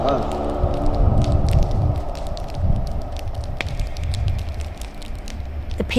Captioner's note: fire crackling